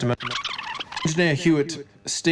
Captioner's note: disc scratches